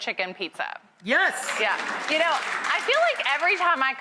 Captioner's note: audience claps